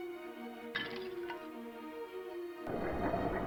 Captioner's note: bottle breaks; screams